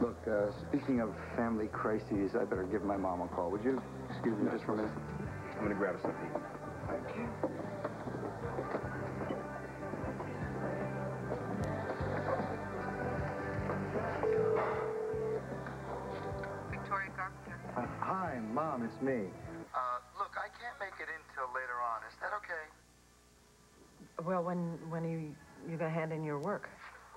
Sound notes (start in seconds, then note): 16.5 telephone rings